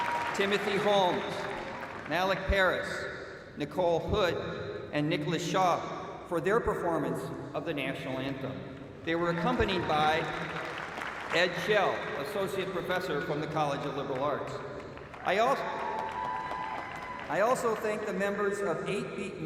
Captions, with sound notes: -- TIMOTHY HOLMES, MALIK PARIS, NICOLE HOOD, AND NICHOLAS SHAW OR THEIR PERFORMANCE OF THE NATIONAL ANTHEM. [APPLAUSE] THEY WERE ACCOMPANIED BY ED SCHELL, ASSOCIATE PROFESSOR FROM THE COLLEGE OF LIBERAL ARTS. [CHEERS AND APPLAUSE] I ALSO THANK THE MEMBERS OF